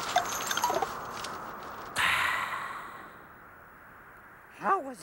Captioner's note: exhales